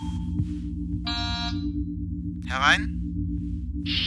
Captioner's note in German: Türsummer